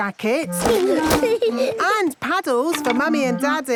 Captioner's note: giggling